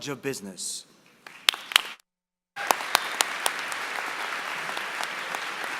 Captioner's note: applause